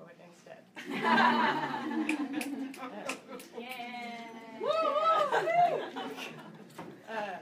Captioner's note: audience laughing and clapping